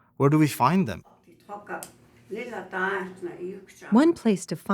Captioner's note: speaking Lakota